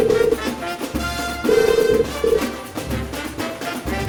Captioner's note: phone rings